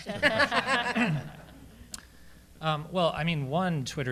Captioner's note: laughter